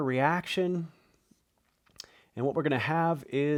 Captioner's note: marker scratching